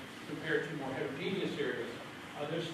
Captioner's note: none